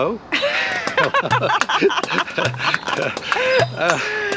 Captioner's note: laughter